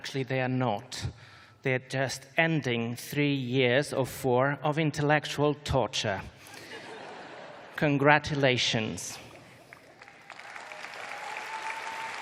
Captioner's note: laughter; applause